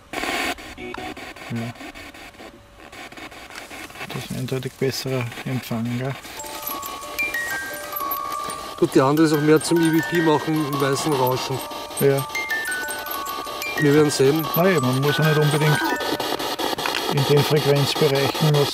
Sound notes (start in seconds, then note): 0.9 radio noise from the spirit box